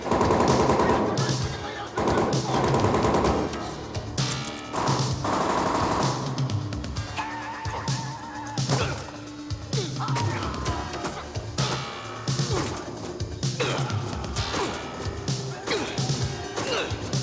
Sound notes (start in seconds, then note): 1.2 all shouting; 8.6 grunting